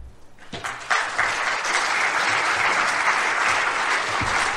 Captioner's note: applause